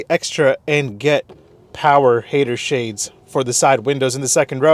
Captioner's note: windows whirring